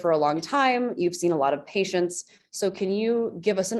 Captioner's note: none